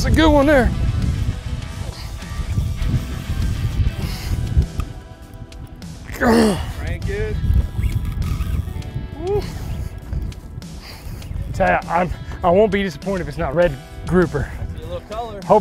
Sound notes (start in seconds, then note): 6.1 grunting